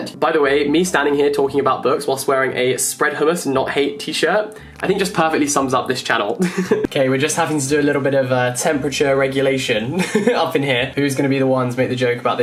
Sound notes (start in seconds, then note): 6.4 laughs; 9.8 laughs